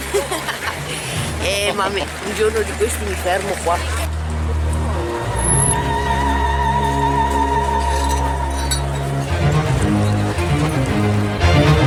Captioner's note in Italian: Applauso